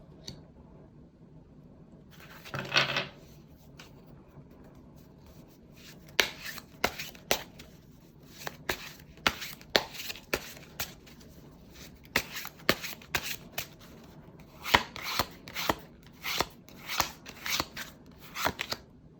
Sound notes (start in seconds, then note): 8.2 drawing cards